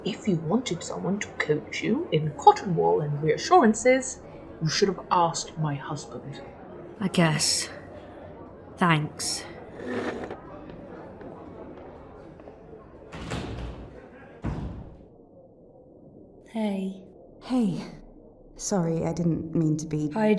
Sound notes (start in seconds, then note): 9.4 door opens, closes, muffling chatter; 9.7 chair scraping, receding footsteps